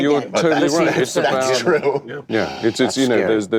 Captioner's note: laughs